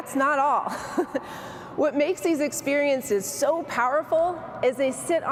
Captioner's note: chuckles